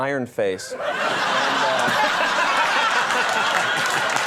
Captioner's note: audience laughing